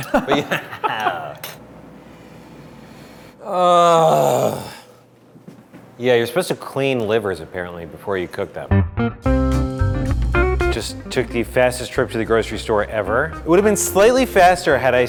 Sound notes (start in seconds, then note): 0.0 laughing; 3.4 groaning; 8.7 upbeat music